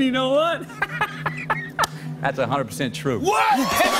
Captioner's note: laughing